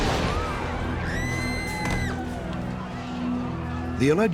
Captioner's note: explosion; screaming